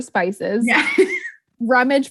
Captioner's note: laughs